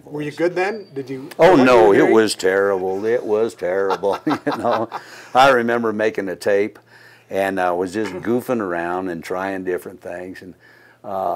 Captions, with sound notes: - Were you good then? - Oh no, it was terrible, it was terrible, you know. (laughing) I remember making a tape and was just goofing around and trying different things.